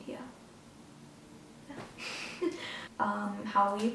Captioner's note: laughs